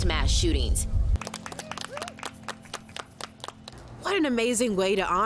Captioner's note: crowd applauding